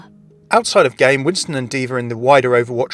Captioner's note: voiceover